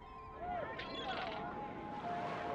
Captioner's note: seagulls, crowd chatter